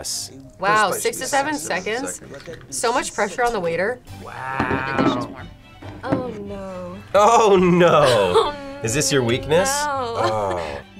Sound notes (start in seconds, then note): 7.8 laughs